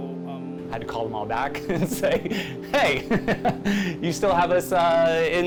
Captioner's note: chuckles